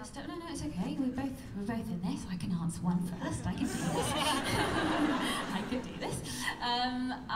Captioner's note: laughter